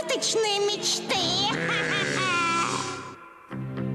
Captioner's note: laughing